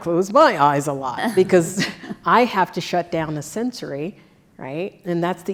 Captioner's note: laugh